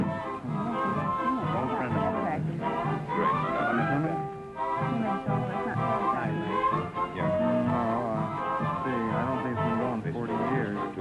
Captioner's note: whispering